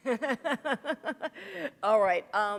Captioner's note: chuckle